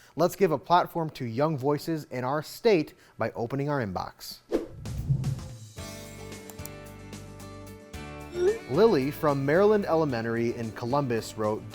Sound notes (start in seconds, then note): 4.4 graphics whooshing; 4.9 light music